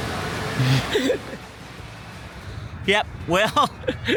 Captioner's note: chuckles